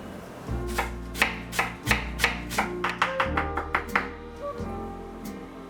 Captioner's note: knife clacking